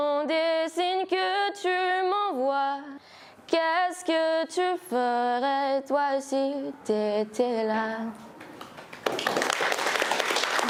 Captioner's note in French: applaudissements